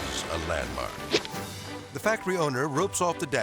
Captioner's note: air swoosh